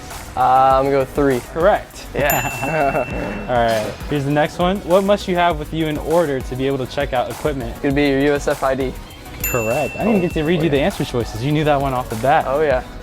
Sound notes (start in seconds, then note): 2.2 laughter; 2.2 bell Dings; 9.4 bell Dings